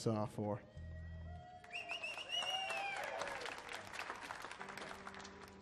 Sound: audience cheering and applauding

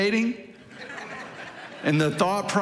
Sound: congregation laughing

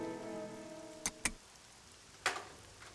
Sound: light turns on

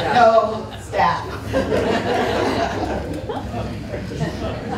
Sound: laughter

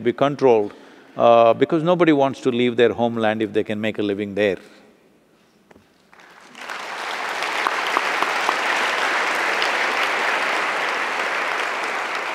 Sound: applause

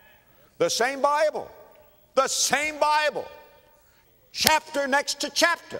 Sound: clap

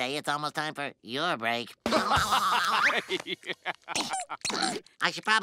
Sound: laughing

